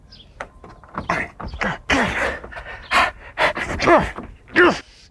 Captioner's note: grunting